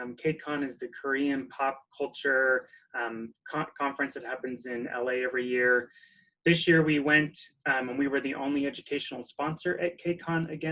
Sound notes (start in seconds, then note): none